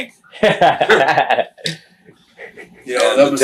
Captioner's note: laughs